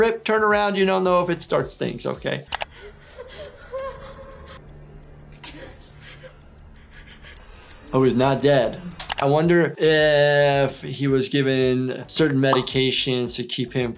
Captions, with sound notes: turn around, you don't know if it starts things, okay? (person breathing heavily) (clock ticking) - Oh, he's not dead. I wonder if he was given certain medications to keep him